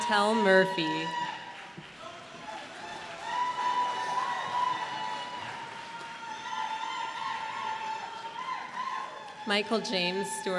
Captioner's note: applause